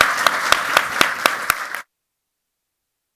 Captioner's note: applause